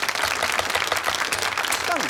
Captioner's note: audience applauds